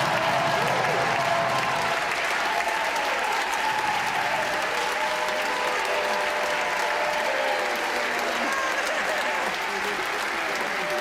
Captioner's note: cheers and applause